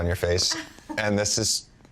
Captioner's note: laughs